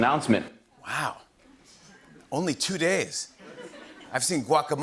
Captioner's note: laughter